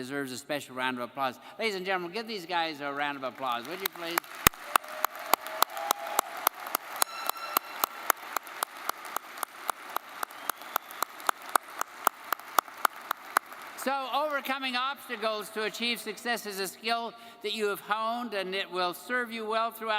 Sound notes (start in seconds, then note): 5.4 audience cheering and applauding